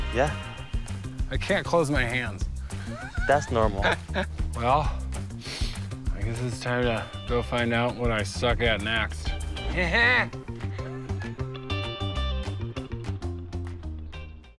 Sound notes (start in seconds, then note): 10.5 laughs; 11.5 upbeat music